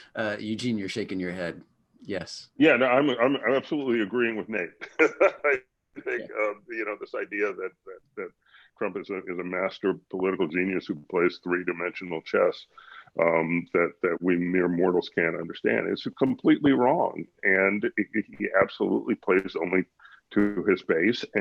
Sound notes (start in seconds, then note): 4.5 laughs